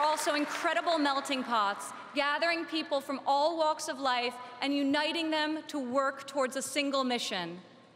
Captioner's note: applause